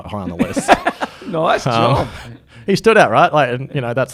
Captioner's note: laughs